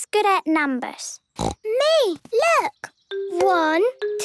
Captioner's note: snorting